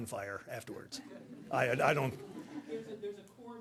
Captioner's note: audience laughing